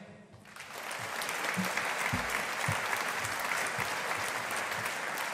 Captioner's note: audience applauding